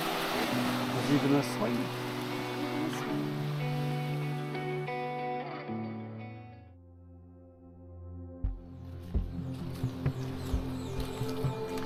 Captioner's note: birds chirping